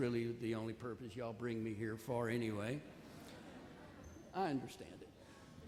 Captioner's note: audience laughs